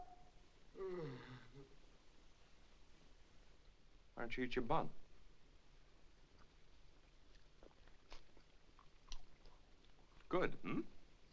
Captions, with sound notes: (man moans) - Why don't you eat your bun? Good, hmm?